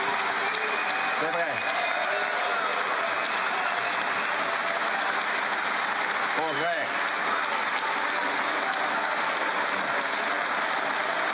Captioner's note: cheering and APPLAUSE